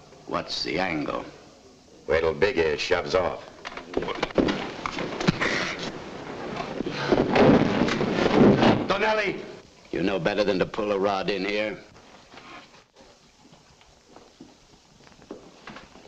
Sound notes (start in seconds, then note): 3.9 men scuffling; 7.0 table crashes